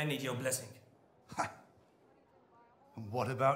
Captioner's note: scoffing